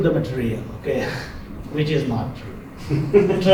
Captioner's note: laughter